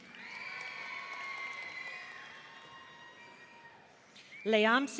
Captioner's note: audience cheering